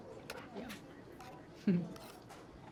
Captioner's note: giggles